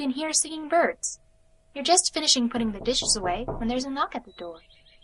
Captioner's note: knocking occurs